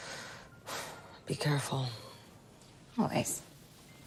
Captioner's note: sighing